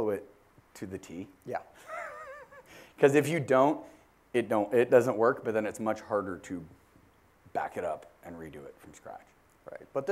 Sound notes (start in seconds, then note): 1.8 laugh